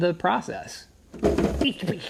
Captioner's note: tappity tappity